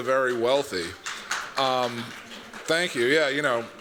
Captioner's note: applause